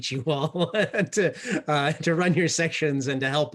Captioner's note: laughs